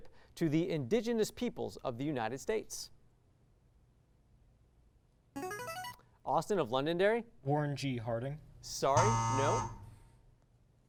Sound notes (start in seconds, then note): 5.4 signaling device tone; 9.0 buzz